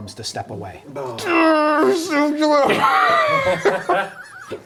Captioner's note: groans